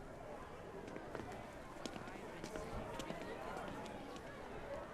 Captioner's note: indistinct background chatter